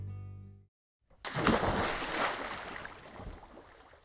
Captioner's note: splashing